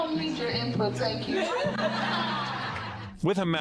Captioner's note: laughter